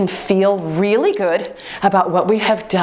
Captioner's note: timer beeps